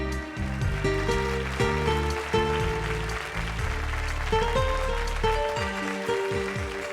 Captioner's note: applause; soft music